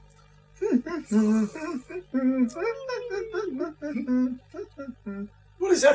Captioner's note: humming from downstairs